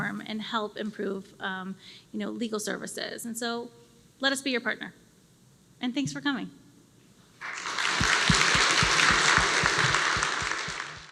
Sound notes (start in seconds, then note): 7.4 applause